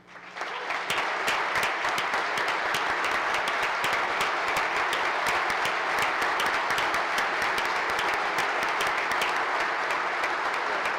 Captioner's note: applause